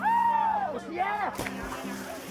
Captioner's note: splash